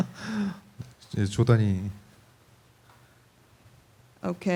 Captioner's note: laughter; speaking korean